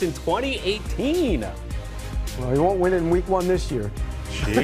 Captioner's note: laughter